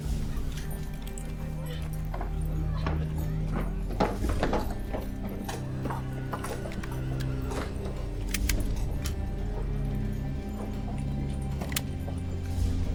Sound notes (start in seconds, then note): 8.2 guns cocking